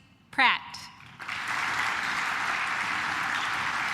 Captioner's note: claps